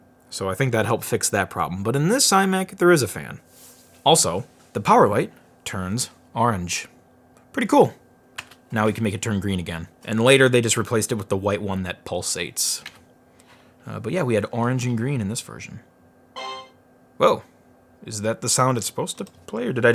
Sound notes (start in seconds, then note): 16.4 horn blast